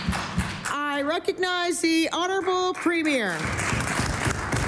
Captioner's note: applause